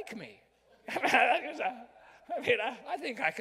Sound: laughs

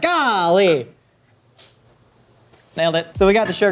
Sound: exclaims

